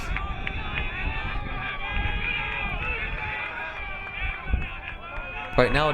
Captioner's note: crowd members yelling